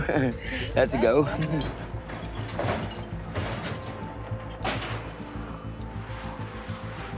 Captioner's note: laughs